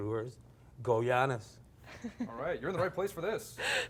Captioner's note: laughing